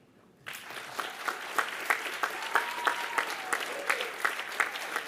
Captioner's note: applause